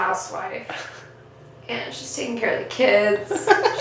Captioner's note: laughs off camera